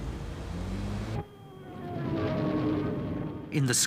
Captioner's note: plane engines roaring